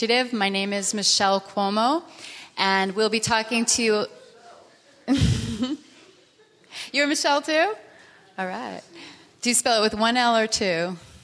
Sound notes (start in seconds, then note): 5.0 laughing